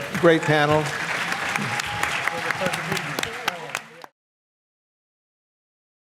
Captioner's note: applause